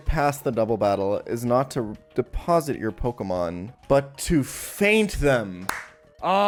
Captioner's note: clapping